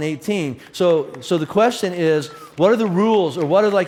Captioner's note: audience applauds